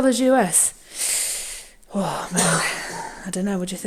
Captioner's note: sucks in her breath